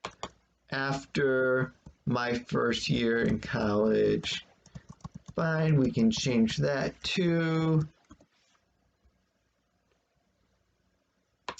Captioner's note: tapping of computer's keyboard